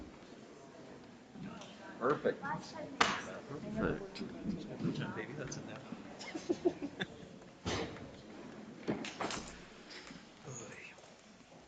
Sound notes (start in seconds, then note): 3.7 people chattering distantly